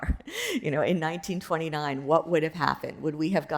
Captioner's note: chuckles